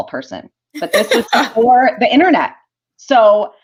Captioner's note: laughter